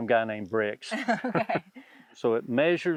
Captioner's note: both laugh